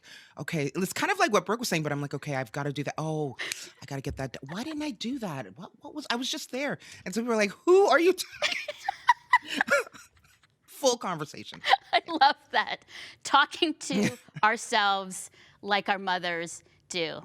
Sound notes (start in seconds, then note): 11.6 laughter